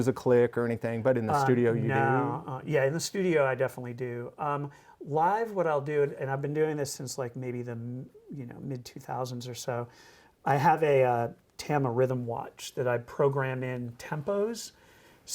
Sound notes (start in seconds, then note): none